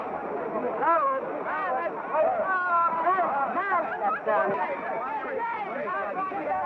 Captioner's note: shouting